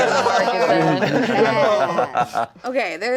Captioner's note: laughing